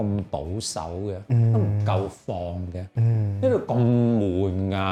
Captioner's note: playful